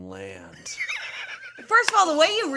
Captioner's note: laughing